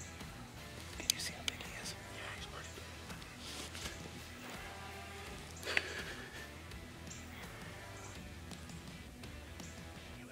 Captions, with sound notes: Can you see how big he is. - [Speaker 1 Whispering] Yeah, he's pretty big. (rustling) (heavy breathing) (upbeat country music)